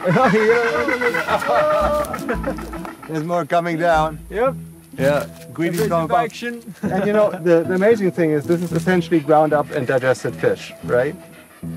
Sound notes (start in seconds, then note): 0.0 bird calling; 1.9 laughing